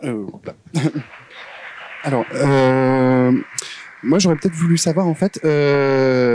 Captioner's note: applause in the distance